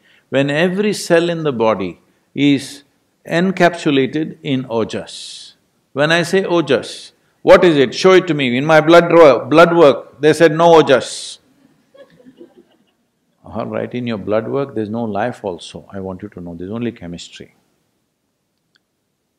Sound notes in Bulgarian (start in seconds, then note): 11.6 Смях